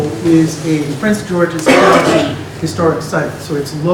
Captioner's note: cough drowns out speaker